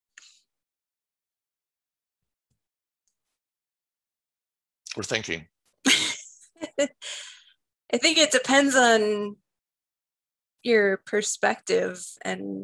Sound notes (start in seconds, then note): 5.8 laughter